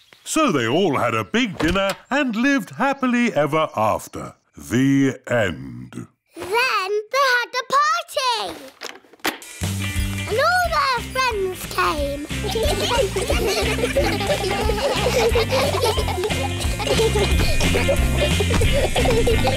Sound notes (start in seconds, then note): 12.2 giggling